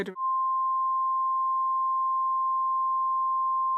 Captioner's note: speaking French